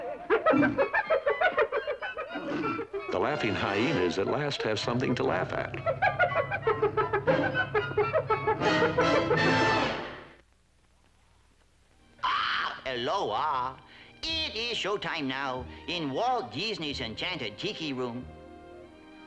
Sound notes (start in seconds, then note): 0.0 yipping; 0.4 rhino grunts; 11.7 squawks; 12.7 Hispanic accent